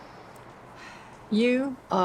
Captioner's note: Grace sighs